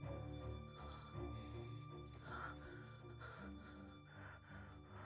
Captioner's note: Jessica gasping